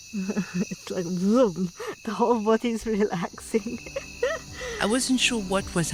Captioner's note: laughter; vroom